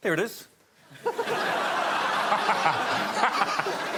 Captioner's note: laughter